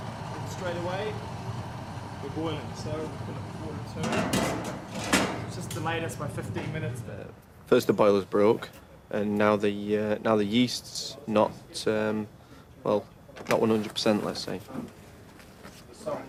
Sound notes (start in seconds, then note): 3.8 metal clanks